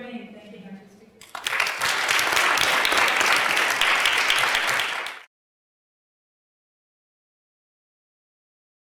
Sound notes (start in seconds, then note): 1.2 applause